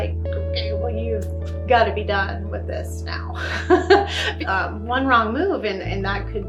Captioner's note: laughs